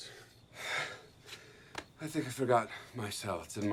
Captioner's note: Lance sighs